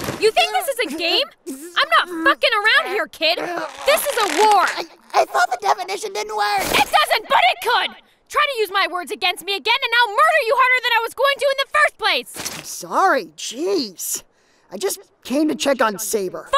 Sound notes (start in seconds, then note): 0.0 groaning in pain; 3.2 groaning in pain